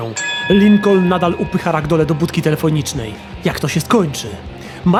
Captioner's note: ring sound